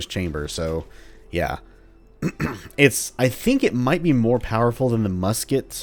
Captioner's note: clears throat